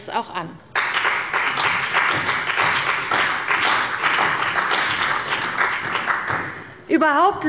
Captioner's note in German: Beifall bei der CDU und dem BÜNDNIS 90/DIE GRÜNEN